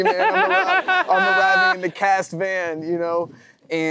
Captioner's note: Matthew & audience laughing